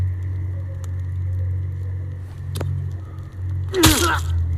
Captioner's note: grunts